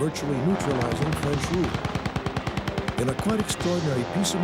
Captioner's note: machine guns clattering